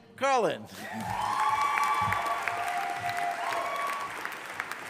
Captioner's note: audience applauding